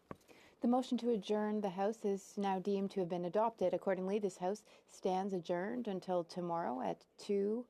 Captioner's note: speaking French